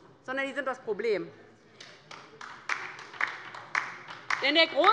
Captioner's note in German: Beifall bei der LINKEN